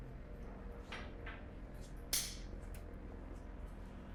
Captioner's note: clicking